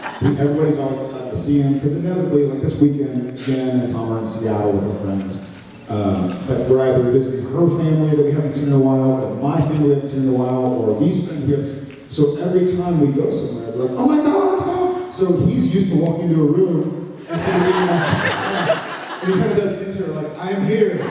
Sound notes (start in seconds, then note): 0.0 laughs; 17.3 laughs